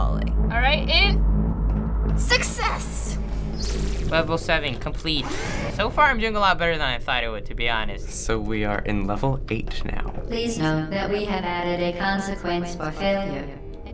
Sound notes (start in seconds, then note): 3.2 in game: buzzing noise; 4.6 door whirs